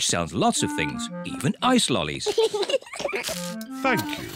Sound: both laugh

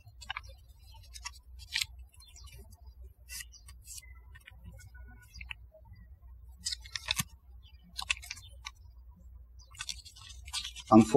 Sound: birds chirping

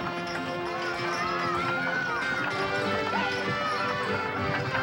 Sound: crowd shouting

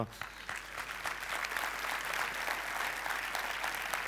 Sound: applause

